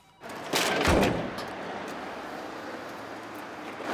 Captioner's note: clong